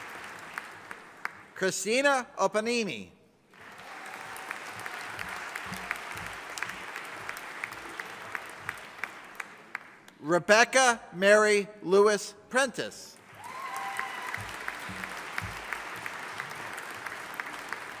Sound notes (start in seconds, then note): 3.5 audience applauding; 13.2 audience applauding